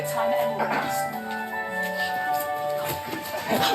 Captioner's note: clears throat